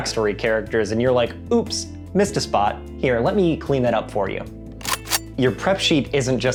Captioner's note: cocks gun